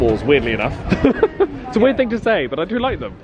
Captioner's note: laughing